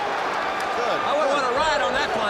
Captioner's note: crowd chatter